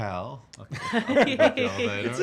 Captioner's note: laughing